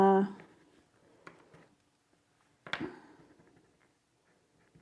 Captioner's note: pencil scraping